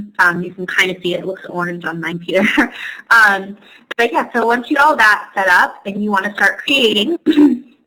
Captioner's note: laughs